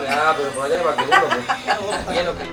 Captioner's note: laughter